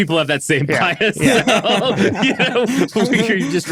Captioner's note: laughing